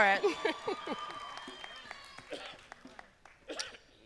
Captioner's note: applause